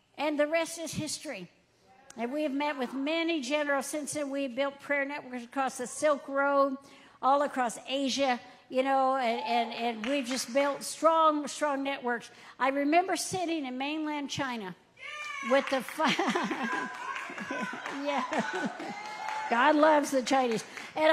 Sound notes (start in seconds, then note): 16.3 audience cheering; 17.2 laughing